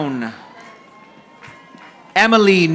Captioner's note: audience applauding